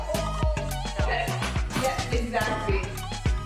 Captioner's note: indistinct chatter